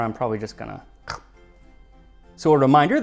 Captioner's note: chomp